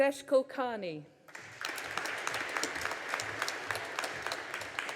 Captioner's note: audience applauding